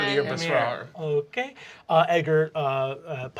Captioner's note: exotic accent; normal voice